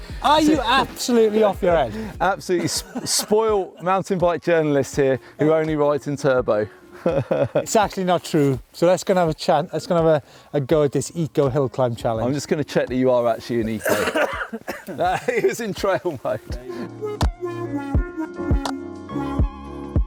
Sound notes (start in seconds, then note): 6.9 laughs; 13.7 coughing; 16.4 laughing; 16.9 gentle music